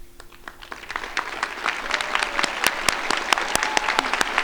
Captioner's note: crowd applauding